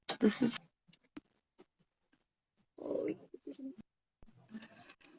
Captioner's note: static noises